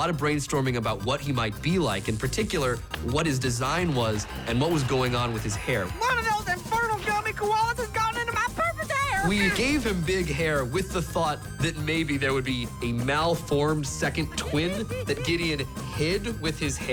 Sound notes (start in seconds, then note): 1.5 electricity crackles